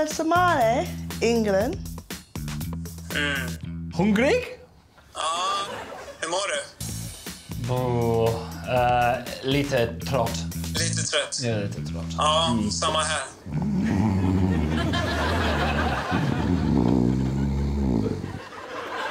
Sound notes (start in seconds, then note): 0.2 speaking Swedish; 3.7 speaks Swedish; 6.7 speaking Swedish; 13.5 snoring